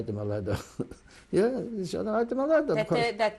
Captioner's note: laughs